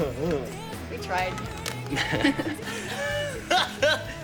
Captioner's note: laughing; Ray laughs loudly